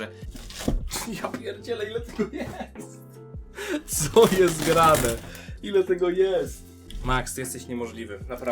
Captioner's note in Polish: śmiech